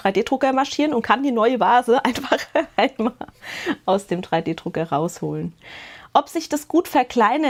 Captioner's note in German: Gelächter